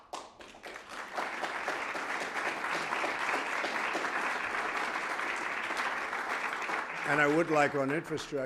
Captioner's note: applause